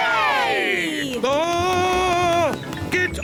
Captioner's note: screams